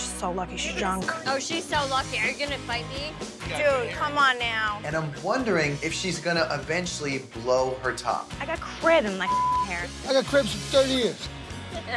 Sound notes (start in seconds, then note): 9.2 beep